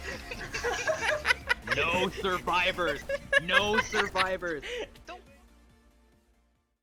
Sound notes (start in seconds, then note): 0.0 laughs